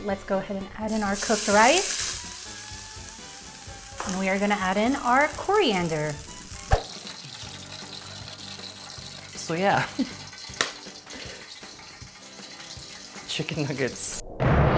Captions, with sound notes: Let's go ahead and add in our cooked rice. (rice sizzling) And we are gonna add in our coriander. (nuggets sizzling) - So yeah. (nuggets sizzling) Chicken nuggets.